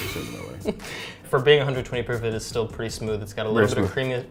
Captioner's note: laughs